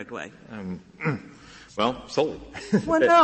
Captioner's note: laughter